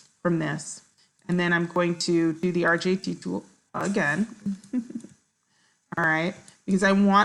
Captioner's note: laughs